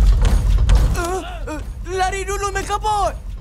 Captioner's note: yelps